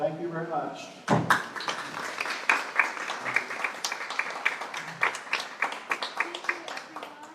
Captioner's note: applause